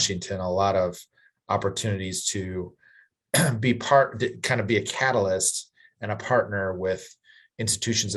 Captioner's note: cough